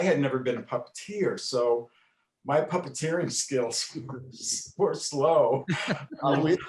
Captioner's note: chuckles